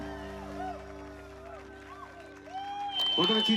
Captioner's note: crowd cheers